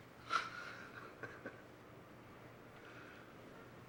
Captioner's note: chuckling